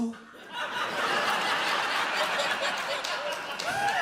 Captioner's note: audience laughs